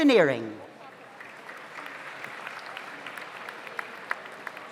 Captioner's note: audience applauds